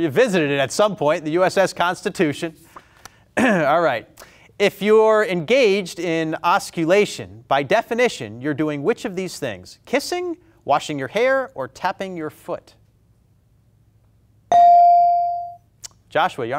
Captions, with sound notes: I'm sure you visited it at some point. The USS Constitution. (clears throat) All right, if you are engaged in osculation, by definition, you're doing which of these things? Kissing, washing your hair, or tapping your foot? (buzzer pings) Joshua, Yarmouth.